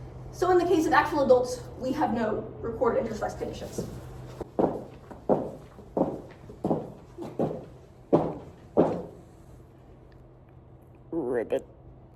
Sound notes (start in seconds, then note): 4.4 high heels hitting the ground loudly